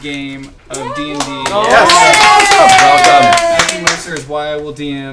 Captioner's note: cheering